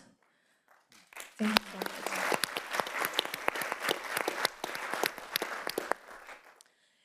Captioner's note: panelists applauding